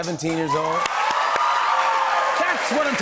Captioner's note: cheers and applause